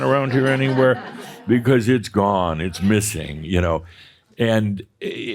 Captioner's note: some laughter